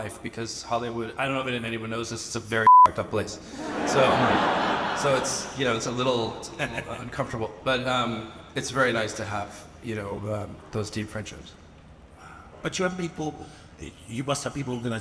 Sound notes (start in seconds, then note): 2.6 beep; 3.5 audience laughing